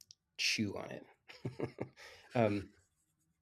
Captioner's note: laughs